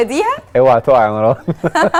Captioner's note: laugh!